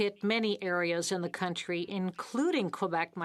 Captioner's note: speaking French